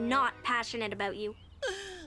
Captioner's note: Otto gasps